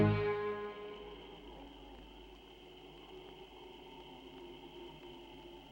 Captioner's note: insects chirping softly